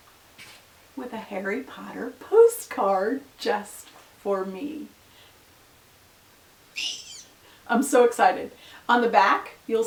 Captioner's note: squeal